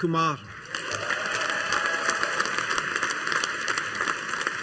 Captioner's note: audience applauding